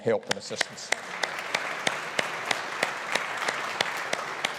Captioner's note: audience applauding